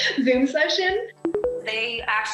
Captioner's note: tones